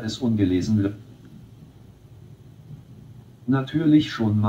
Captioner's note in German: Stille